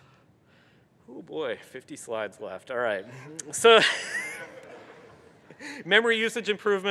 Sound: laughter

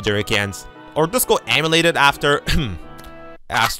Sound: ahem

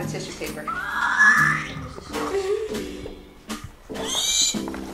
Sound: squeals excitedly; squeals again

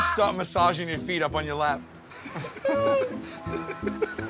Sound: laughter

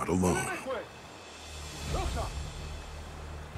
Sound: blackfoot talking

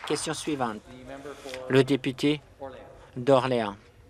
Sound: some Applause

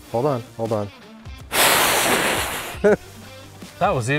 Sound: blowing

